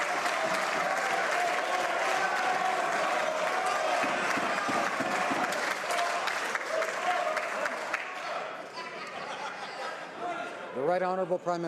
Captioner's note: some Applause